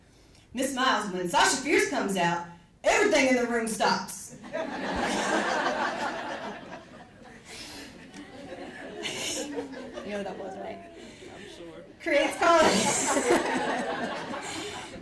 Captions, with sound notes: "Miss Miles, when Sasha Fierce comes out, everything in the room stops." (audience laughs) You know who that was, right? - I'm sure. - Creates-- (laughs)